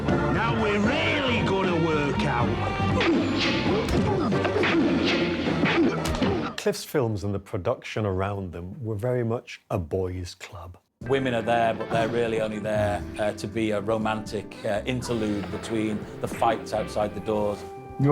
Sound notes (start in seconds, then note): 3.0 actor groans; 3.0 punches landing